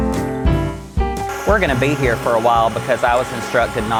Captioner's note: mixer whirring